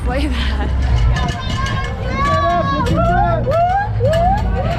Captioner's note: crowd noise